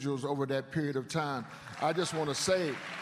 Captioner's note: applause